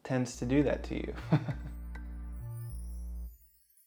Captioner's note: chuckles